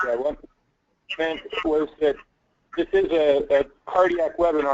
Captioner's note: voiceover